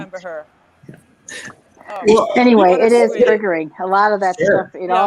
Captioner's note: laughs